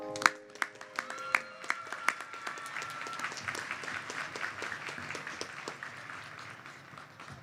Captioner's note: applause